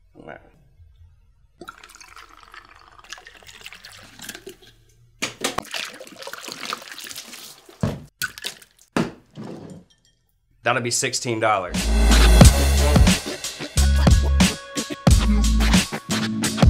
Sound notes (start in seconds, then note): 1.6 liquor pouring; 5.7 ice rattling; 11.6 upbeat music